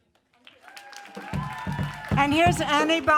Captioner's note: audience applauds and cheers